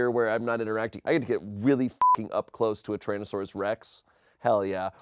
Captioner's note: beep